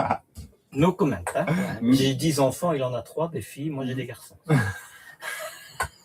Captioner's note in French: rires